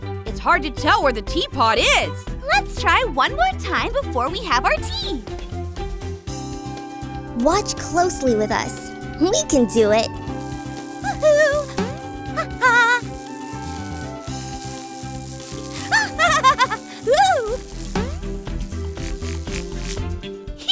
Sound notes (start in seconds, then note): 11.8 boing; 15.8 laughs; 17.9 boing